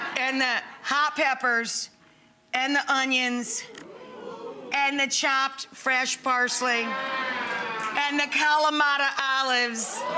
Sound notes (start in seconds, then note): 6.9 audience cheering